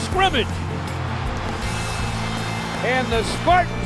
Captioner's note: crowd cheering